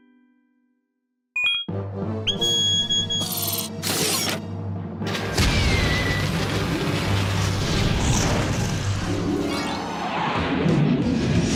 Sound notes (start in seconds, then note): 2.3 beeping; 3.3 whirring; 5.2 whooshing